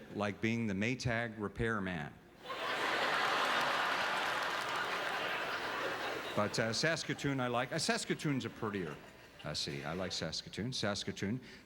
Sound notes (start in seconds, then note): 2.4 audience laughter